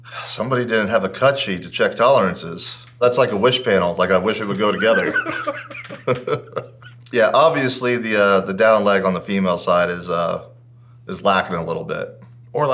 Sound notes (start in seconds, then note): 4.4 chuckles; 4.4 laughs